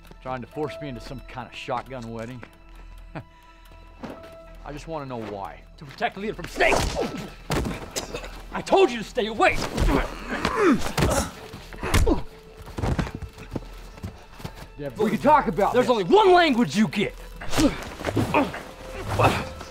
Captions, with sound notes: Trying to force me into some kind of shotgun wedding. Ha, I just wanna know why. - To protect Lena from snakes! (smacking) I told you to stay away! (groans & grunts) - Devon, we can talk about this. - There's only one language you get! (grunting)